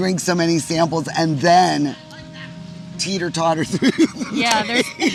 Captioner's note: laughs